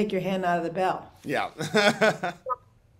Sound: laughs

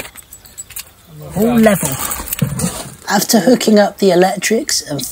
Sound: sound of the motorhome engine ticking over

